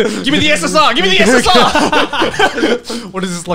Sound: laughing

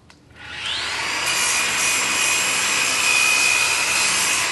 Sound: grinder whirring

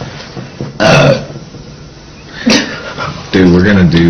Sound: burps

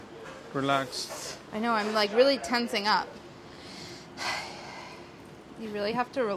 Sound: sighs

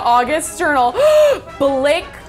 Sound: gasps

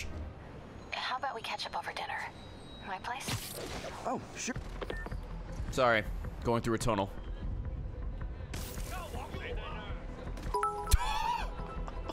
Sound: laughs

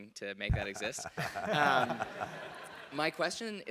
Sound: laugh

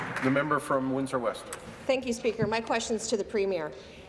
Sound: applause

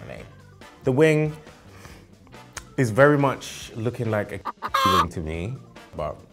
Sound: chicken clucking

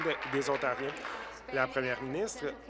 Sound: applause

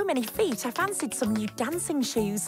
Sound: none

